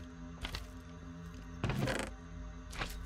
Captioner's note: chest creaks open